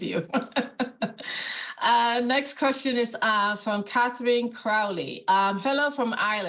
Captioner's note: laughing